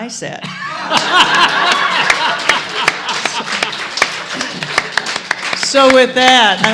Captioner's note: laughter and applause